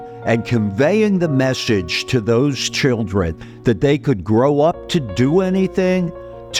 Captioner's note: none